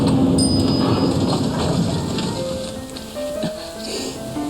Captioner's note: elevator chimes